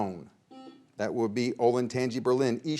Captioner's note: buzzer beeps